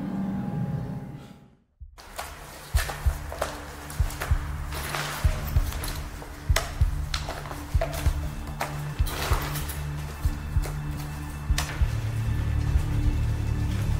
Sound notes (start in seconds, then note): 2.5 shuffling sounds